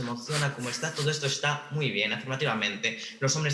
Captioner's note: laughs